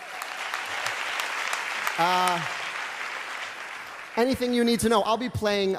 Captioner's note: applause